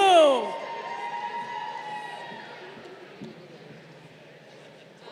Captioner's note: crowd cheering